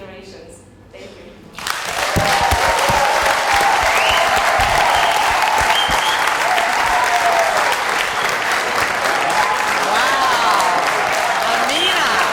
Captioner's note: cheers and Applause